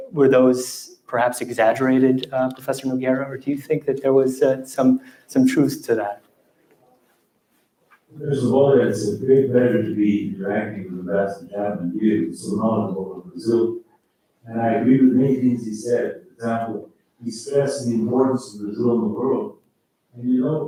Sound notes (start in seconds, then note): 10.6 faintly speaking